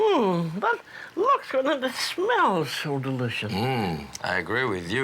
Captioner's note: voiceover